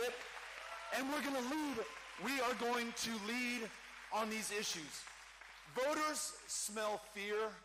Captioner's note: cheering